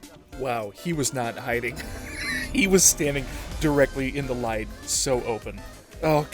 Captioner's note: wheeze